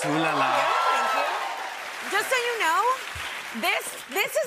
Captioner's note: cheers and applause